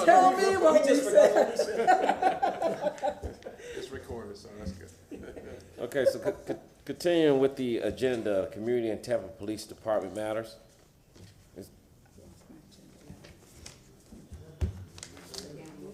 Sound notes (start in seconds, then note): 5.8 laughs